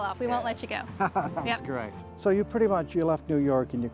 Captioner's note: laughs